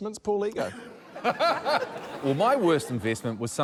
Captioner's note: laughter